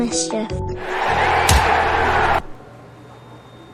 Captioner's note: crowd Cheering